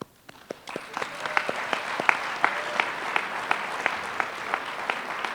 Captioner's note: applause